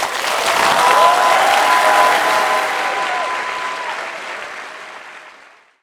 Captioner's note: applause